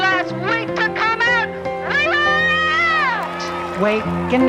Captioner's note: cheers and applause